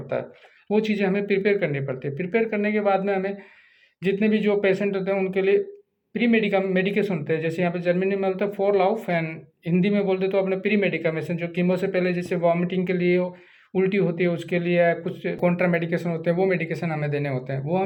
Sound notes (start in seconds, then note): 9.9 in German